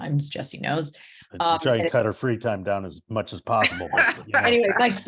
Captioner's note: laughing